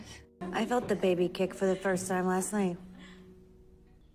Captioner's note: voiceover